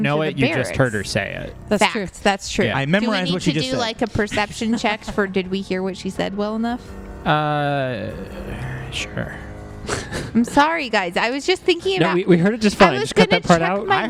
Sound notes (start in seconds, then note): 9.9 laughs